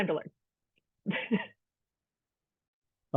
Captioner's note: laughs